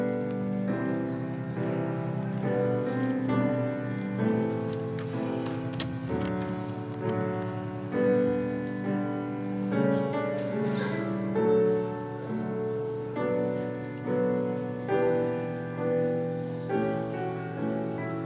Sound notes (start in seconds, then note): 1.8 audience whispering